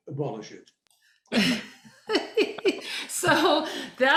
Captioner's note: laughs